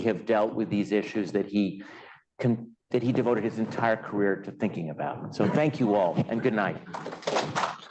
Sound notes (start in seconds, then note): 7.0 applause